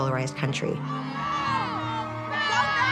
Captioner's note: protesters shouting